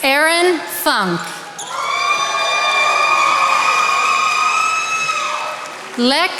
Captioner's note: attendees applauding